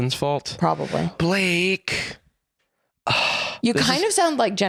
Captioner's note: sighs